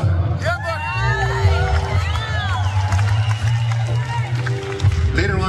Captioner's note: applause